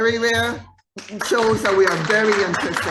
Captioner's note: audience applauding